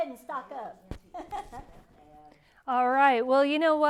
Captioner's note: laugh